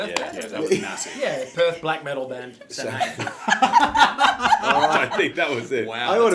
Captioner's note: all laugh